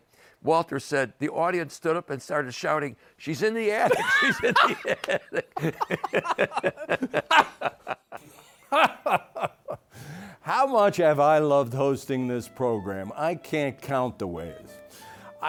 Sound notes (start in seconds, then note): 3.8 laughs; 7.6 both laughing